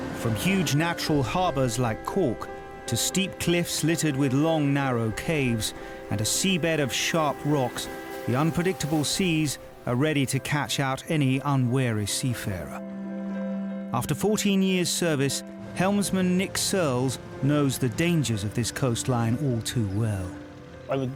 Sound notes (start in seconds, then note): 0.0 waves crashing; 12.8 lighthearted music; 12.8 water trickles